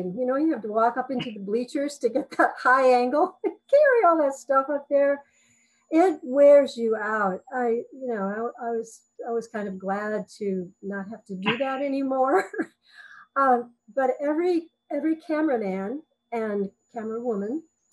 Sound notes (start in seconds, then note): 3.1 laughs